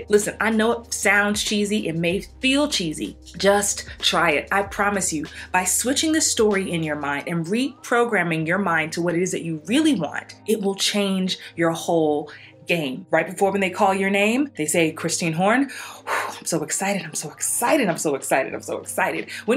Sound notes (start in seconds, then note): 15.7 exhales